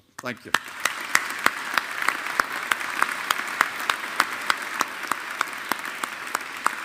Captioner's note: audience applauding